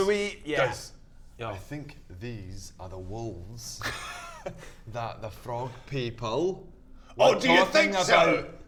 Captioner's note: whispers